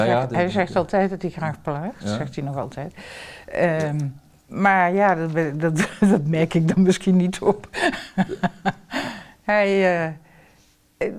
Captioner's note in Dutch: Lacht